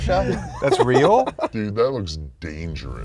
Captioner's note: laughing